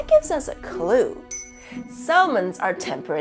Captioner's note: ding!